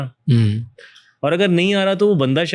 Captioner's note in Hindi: गला साफ़ करने की आवाज़